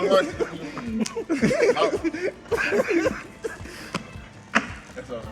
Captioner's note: laughs